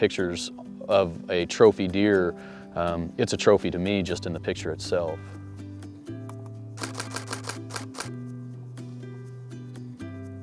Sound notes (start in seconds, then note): 6.8 camera shutter clicking